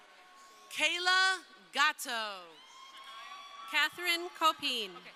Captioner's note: crowd cheering